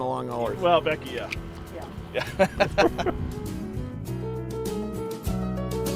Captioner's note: laughing